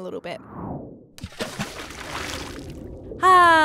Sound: splash!

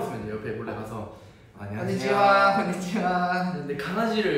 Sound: japanese

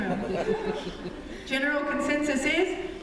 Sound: laughter

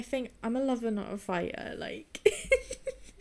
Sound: giggles

